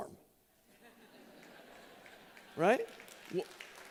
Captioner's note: laughter